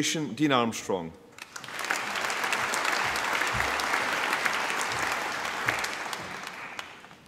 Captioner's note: applause